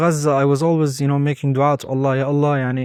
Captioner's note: speaking Arabic